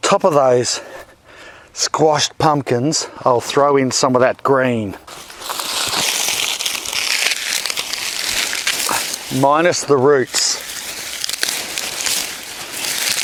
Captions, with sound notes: On top of those squashed pumpkin's, I'll throw in some of that green. (crunching) Minus the roots